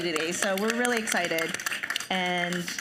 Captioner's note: audience applauding